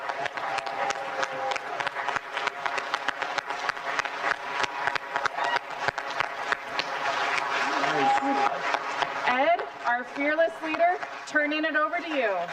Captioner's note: applause